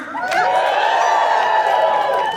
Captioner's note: audience cheering